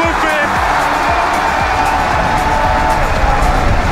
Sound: crowd cheering

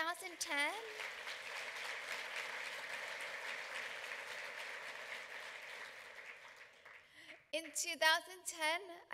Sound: clapping

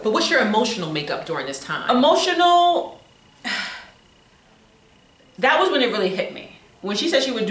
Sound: sighs

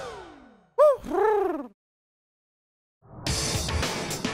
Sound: Huti hoots; rock music

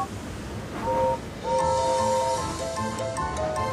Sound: gordon whistles

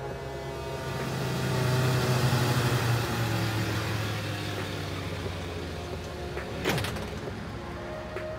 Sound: tow truck approaches

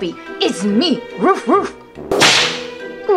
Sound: barking; whip cracking

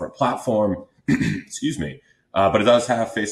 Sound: clears throat

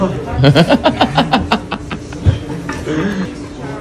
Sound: laughs

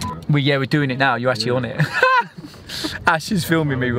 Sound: laughs

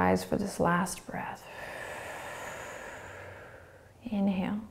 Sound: exhaling

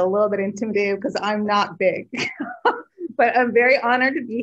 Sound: chuckles

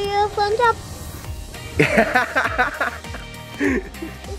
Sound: laughs

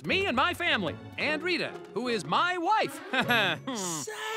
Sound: chuckles

